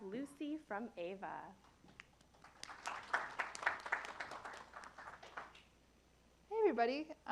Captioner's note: applause